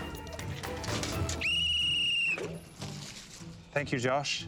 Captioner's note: whistle blows